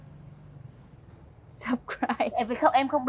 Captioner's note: laughing